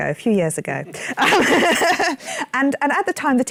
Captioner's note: laughter